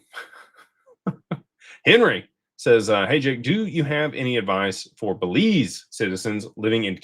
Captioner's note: laughter